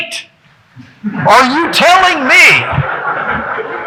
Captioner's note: audience laughing